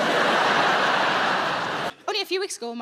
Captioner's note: audience laughing